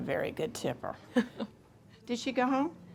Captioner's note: Fern laughs